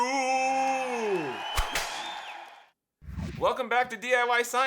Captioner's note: audience cheering